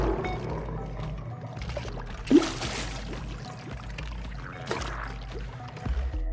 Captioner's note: sounds of a creature swimming